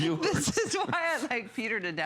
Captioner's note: laughter